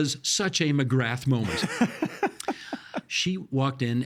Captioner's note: laughing